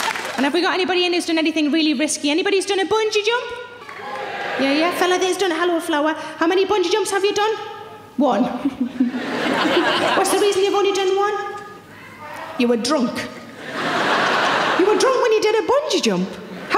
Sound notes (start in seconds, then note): 3.8 audience cheering; 8.6 laughs; 13.4 audience laughing